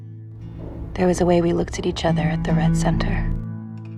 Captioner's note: voiceover